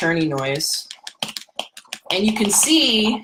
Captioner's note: cleanser sloshing